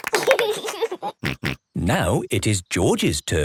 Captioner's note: laughs